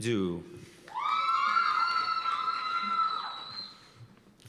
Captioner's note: cheers and applause